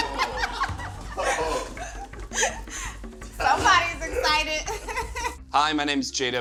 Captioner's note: laughs